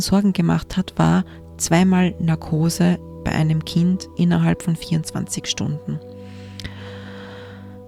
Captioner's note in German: seufzt